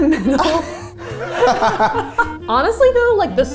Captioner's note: all laugh